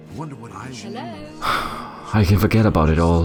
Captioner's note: bar patrons chat incessantly; narrator sighs